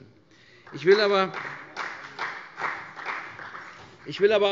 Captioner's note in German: Vereinzelter Beifall